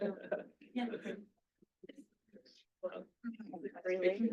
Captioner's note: people chattering